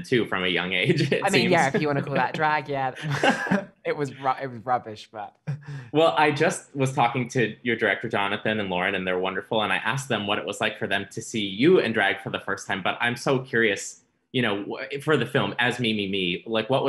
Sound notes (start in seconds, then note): 0.6 laughs